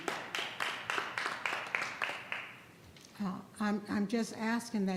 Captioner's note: audience applauds